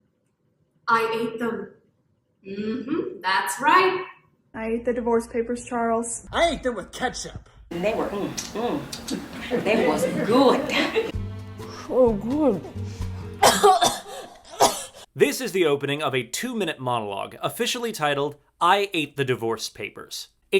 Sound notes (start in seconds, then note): 8.9 licks fingers; 13.4 coughing, wheezing